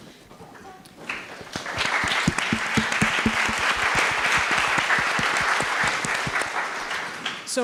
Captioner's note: applause